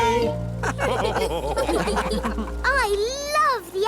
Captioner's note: all laugh